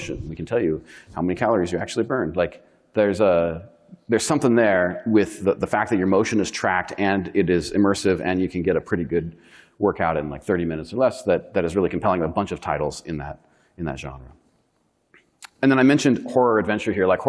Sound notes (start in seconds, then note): none